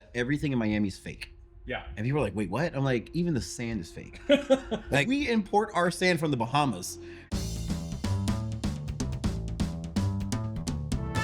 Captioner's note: heartbeat